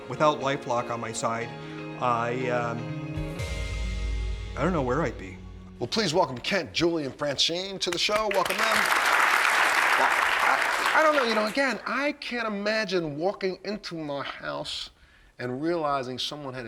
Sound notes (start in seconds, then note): 7.8 applause